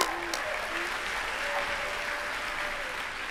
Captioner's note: applause